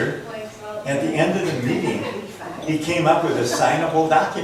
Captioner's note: laughs; voiceover